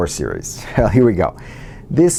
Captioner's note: laugh